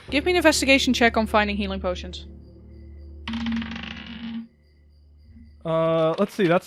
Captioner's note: dice clacks